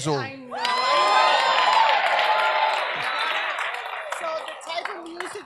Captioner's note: audience cheers